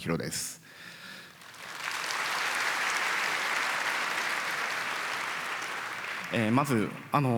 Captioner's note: applause